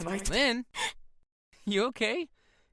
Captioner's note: startled gasp